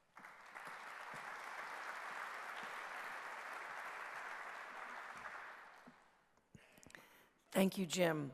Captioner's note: clapping